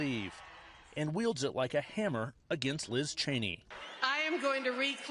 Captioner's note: cheers